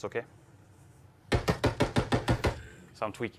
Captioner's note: gunshots